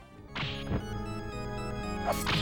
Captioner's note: whip slashes